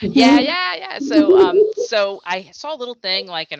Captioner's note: laughing